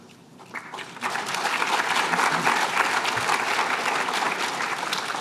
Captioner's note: applause